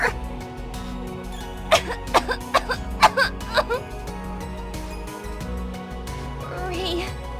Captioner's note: bad cough